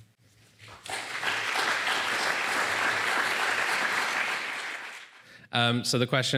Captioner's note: applause